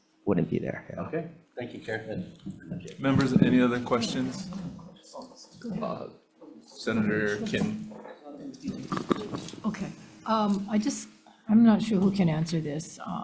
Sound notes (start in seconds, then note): 5.1 people chatter